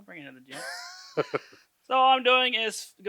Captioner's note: chuckles